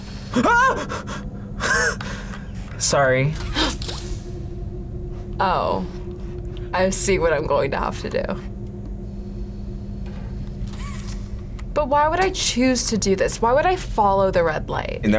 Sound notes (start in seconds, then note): 0.1 shouts; 3.6 gasps